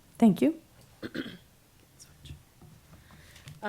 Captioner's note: clears throat